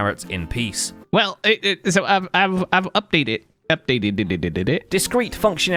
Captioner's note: stammers